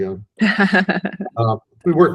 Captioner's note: laughing